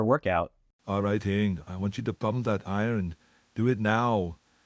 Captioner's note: In Arnold Schwartzenegger voice